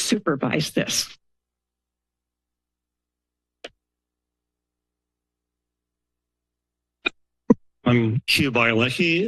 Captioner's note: silence